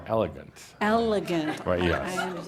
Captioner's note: laughter